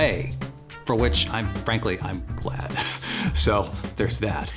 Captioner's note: chuckles